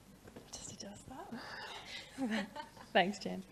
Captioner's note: laughs